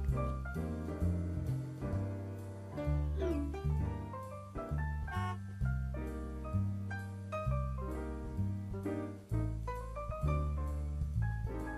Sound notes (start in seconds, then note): 0.0 jazz music playing; 5.1 car horn honks; 8.4 jazz music playing